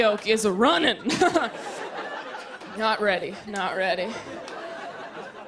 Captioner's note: laughter